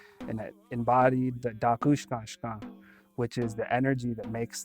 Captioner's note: speaking Dakota